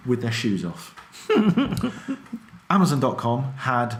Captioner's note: laughs